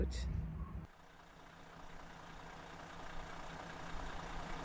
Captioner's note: engine roars